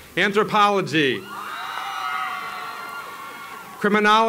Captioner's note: applause